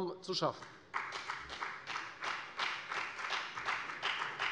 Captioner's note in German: Beifall bei der FDP